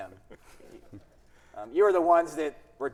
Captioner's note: audience chuckling softly